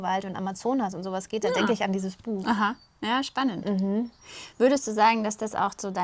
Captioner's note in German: räuspern